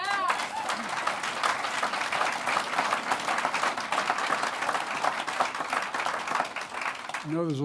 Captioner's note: applause